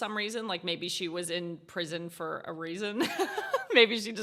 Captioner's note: laughs